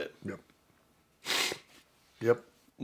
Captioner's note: sniffs